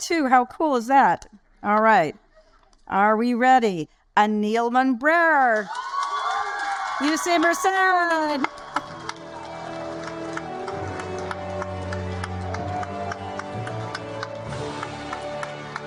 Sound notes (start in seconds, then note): 5.3 audience applaud and cheer; 8.3 majestic music; 8.7 audience applaud